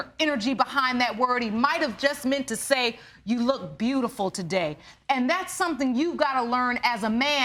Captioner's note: none